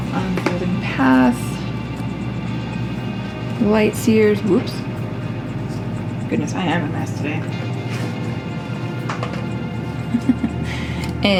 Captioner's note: laugh